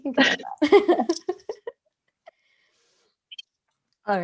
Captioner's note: laughter